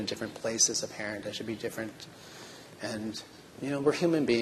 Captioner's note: none